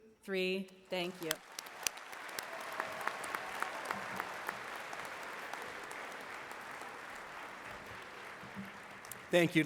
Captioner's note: applause